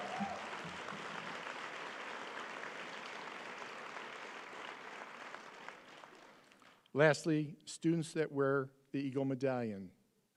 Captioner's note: applause